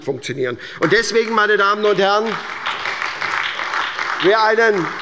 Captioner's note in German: Beifall bei der SPD